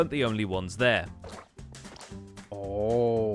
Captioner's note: glow ink sounds